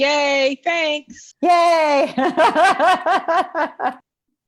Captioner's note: laughs